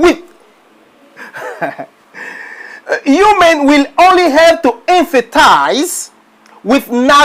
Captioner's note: laught